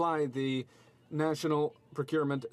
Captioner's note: speaking French